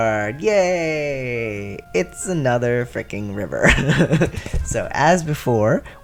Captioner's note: laugh